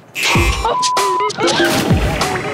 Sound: buzzer; beep

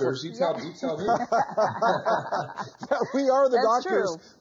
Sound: all laugh

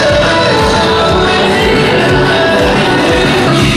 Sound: argh

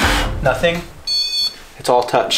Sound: beeps

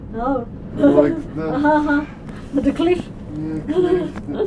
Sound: indistinct chatter

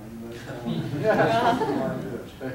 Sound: audience laughing

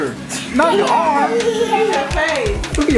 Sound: laughs

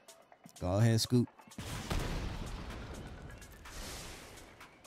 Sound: explosion

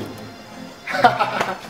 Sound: laughs

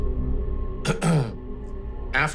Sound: clears throat

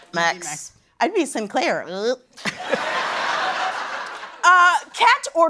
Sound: laughter

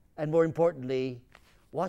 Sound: none

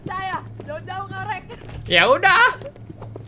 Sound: laugh

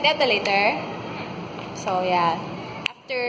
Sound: noise of aggreement

